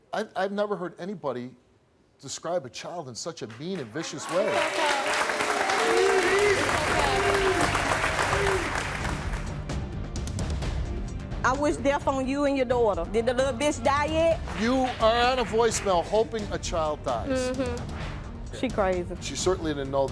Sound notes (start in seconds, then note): 3.8 audience cheers; 7.8 dramatic music